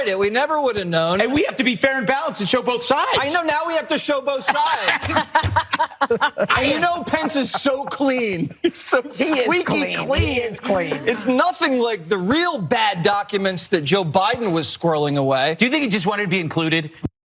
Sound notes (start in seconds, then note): 4.3 laugh